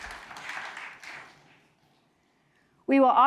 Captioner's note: audience clapping